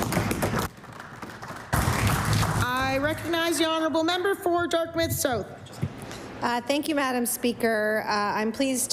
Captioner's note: applause